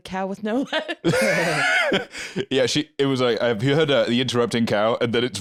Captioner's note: laughs